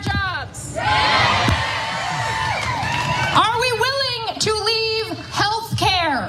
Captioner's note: applause